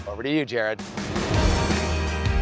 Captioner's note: upbeat music; air whooshing